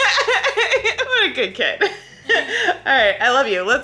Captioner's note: laughs